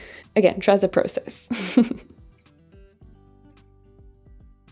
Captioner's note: chuckles